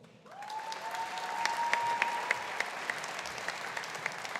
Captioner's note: audience applauding